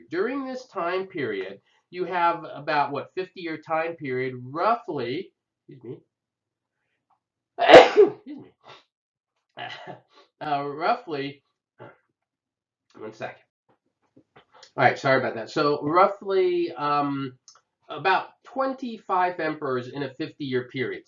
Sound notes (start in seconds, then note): 7.6 coughs